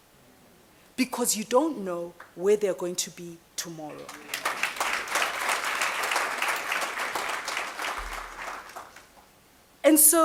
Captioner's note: applause